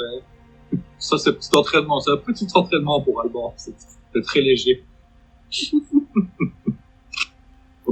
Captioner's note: laughs